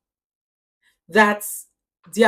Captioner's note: paause